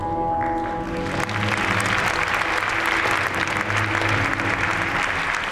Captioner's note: audience applauds